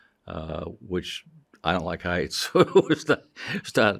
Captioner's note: chuckling